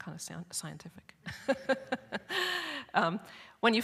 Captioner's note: laughs